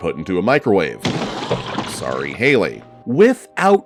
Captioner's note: popping